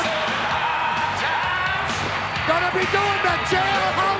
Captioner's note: crowd chattering